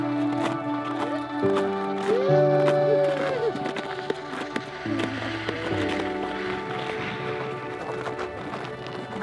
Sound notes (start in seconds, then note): 2.1 team cheering